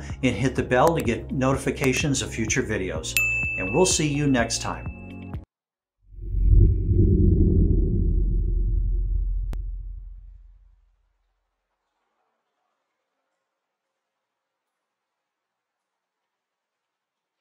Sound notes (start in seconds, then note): 4.9 upbeat music; 6.2 air whooshing